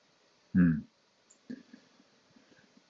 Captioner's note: sighs